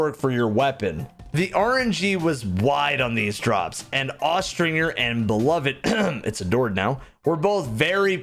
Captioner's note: ahem